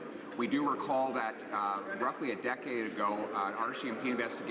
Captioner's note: none